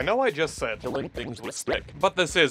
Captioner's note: distorted